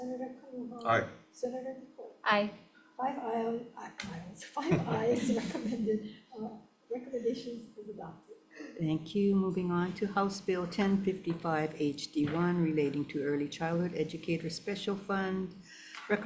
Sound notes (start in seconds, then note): 3.8 stammers